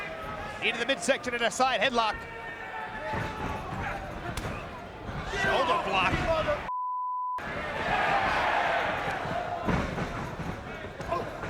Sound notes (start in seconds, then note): 4.3 wrestlers smack; 6.7 beeps; 7.4 crowd exclaiming